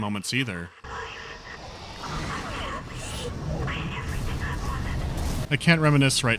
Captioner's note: Nicole's barely audible lamentations broken up by the sounds of combat